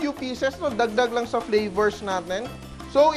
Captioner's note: sizzle